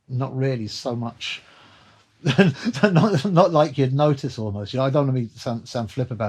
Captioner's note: laughter